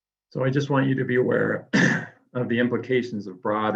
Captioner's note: clears throat